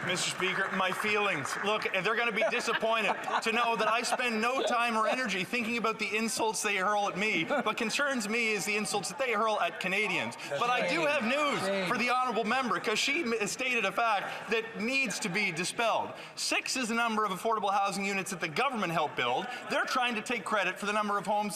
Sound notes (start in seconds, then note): 2.1 some Applause